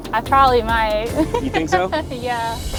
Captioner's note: laughing